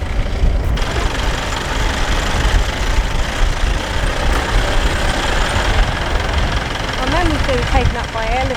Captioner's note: engines